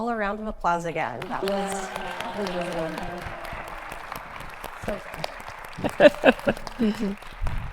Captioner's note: audience clapping